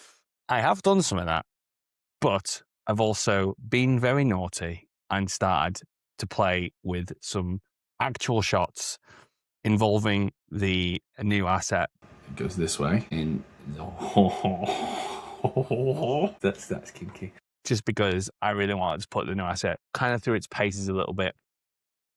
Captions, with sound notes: I have done some of that, but I've also been very naughty and started to play with some actual shots involving the new asset... It goes this way. And. *Excited noises* That's... that's kinky. just because I really wanted to put the new asset kind of through its paces a little bit.